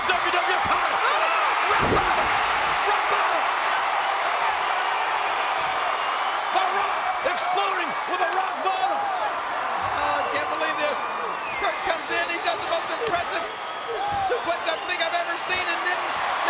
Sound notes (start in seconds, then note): 5.6 applause